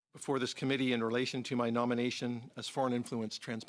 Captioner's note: speaking French